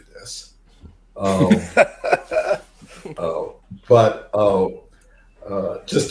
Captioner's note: laughter